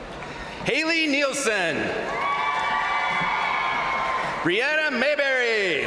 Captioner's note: crowd cheering; crowd cheering